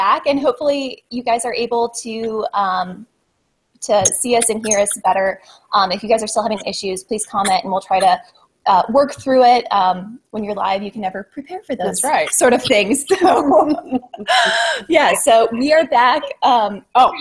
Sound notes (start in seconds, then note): 11.9 laughs